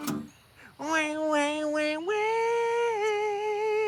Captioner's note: imitating chainsaw